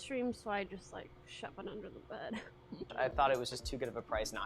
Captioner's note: laughs